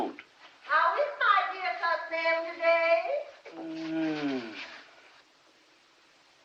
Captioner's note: groans